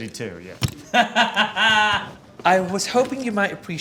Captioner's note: Tan laughs